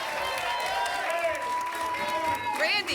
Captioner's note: applause and cheering cont